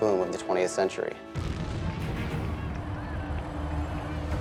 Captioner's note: rocket booms